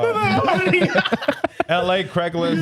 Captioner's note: laughing